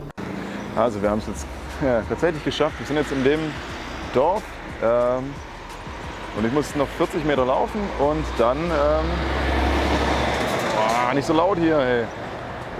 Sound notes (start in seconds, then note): 9.5 lorry noises